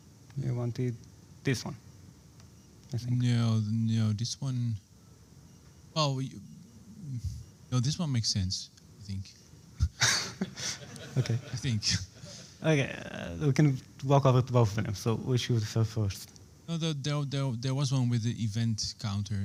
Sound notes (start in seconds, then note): 9.8 laughs